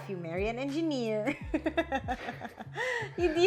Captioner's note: laughs